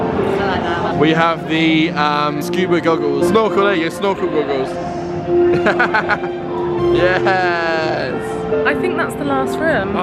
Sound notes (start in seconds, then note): 5.5 laughs